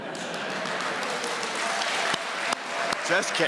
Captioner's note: audience members laugh; audience applauding